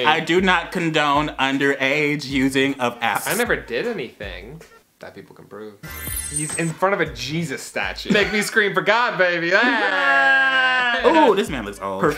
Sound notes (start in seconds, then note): 5.9 sparkle; 10.1 yelling